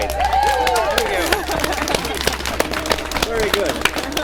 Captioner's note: applause